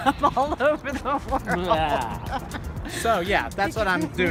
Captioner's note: laughs